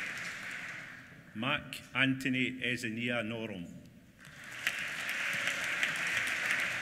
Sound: applause

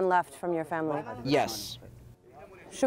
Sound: through translator

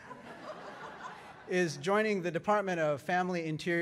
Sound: laughter

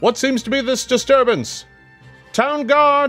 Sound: none

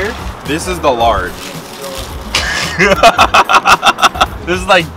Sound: laughs

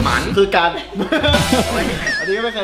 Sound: laughs

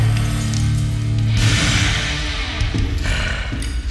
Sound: breath

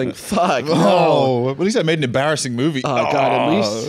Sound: both groan

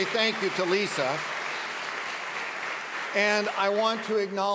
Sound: audience claps

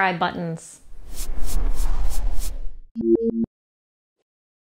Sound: logo whooshes

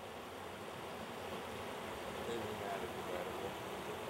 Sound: water rushing

